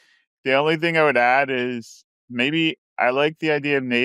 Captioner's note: laughs